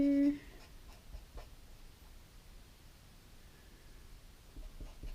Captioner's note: pen scratching